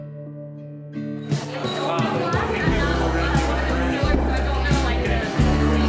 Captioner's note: crowd chatter; upbeat music